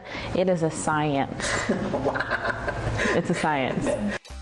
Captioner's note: laughing